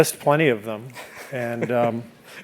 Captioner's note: laugh